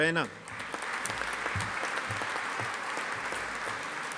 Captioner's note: audience applauding